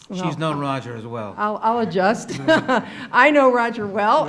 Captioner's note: laughs